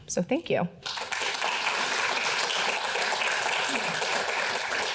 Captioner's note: audience applauding